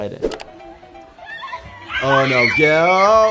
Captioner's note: girls screaming